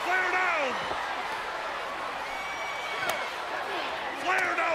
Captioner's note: crowd cheering